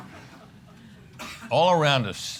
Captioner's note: laughter